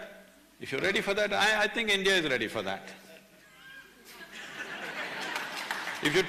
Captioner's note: laughter